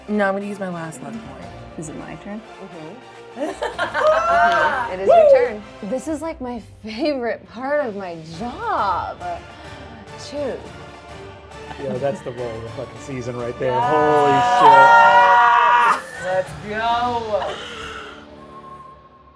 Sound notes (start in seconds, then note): 3.4 laughing; 13.6 group yelling